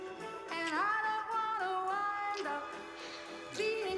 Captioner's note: lips smacking